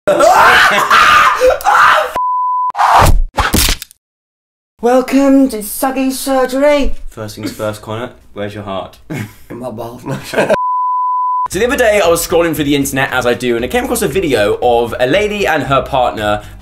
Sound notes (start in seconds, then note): 0.1 screaming; 5.0 old frail voice; 10.5 beep